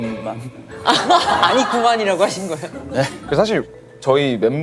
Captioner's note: hahaha